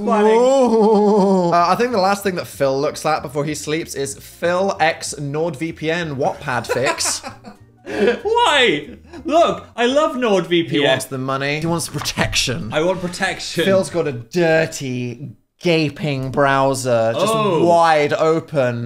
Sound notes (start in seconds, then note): 6.6 laughing